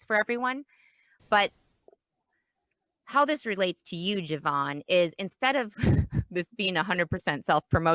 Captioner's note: laughs